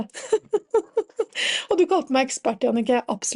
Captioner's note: laughs